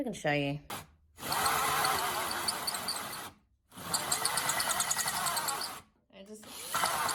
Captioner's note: drill runs then dies fast